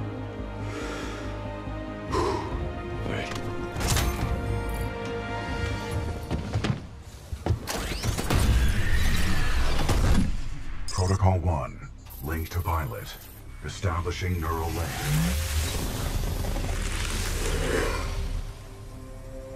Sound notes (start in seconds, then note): 0.6 deep breath